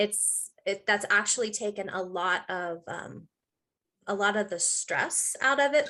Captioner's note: none